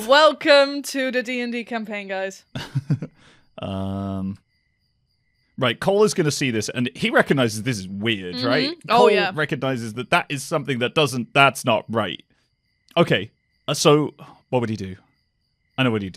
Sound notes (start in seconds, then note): 2.5 laughs